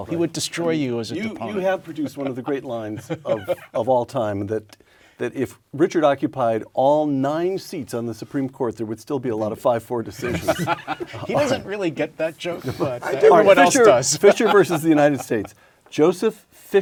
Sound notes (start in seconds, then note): 10.1 laugh